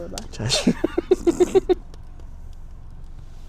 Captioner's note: laughs